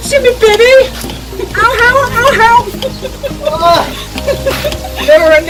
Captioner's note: laughing as some water lands on his face